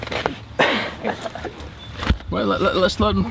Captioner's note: sighs